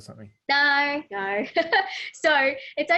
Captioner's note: laughs